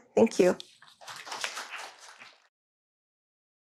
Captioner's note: audience claps